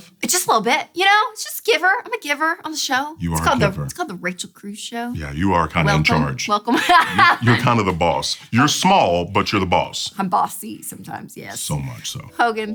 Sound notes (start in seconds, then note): 6.7 laughs